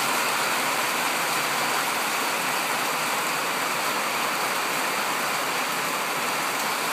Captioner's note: sound of rain